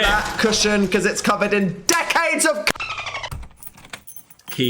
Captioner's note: dolphin chatter